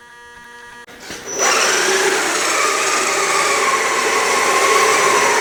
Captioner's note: RC engine sound